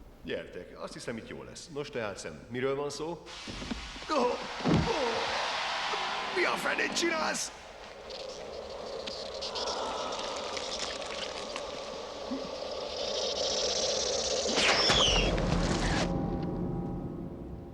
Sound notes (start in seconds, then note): 13.4 hissing